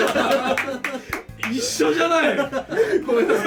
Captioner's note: laugh